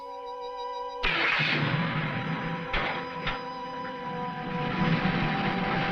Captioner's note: engine rumbling